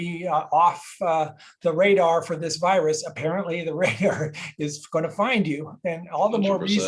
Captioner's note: laugh